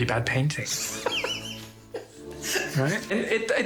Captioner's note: laughs